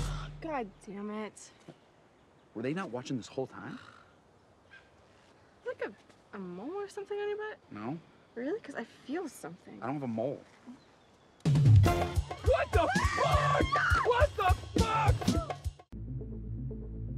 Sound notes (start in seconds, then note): 12.3 screams